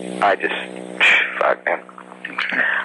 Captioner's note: sighs